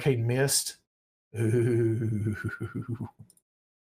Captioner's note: giggles